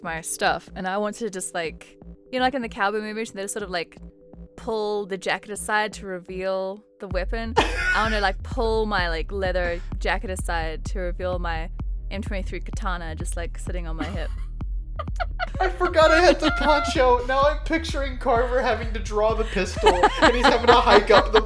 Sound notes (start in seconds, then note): 7.1 chuckles; 15.1 laughs; 19.7 laughs